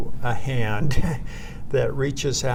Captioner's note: laughs